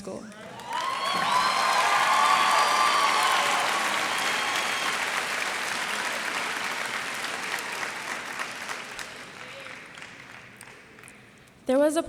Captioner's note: cheers and applause